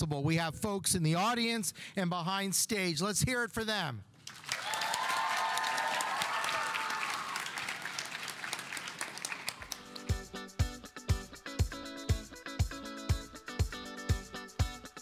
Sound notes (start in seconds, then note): 4.2 audience applauding; 4.3 audience cheering; 9.7 uptempo music